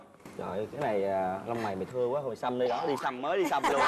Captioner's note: laughter